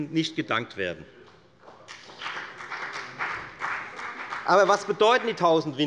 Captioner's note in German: Beifall bei der FDP